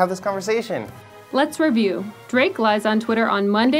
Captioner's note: voiceover